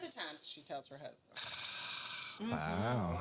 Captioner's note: snoring